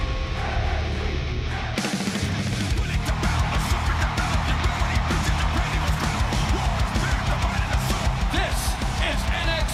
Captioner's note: crowd cheering